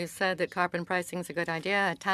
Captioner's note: speaking French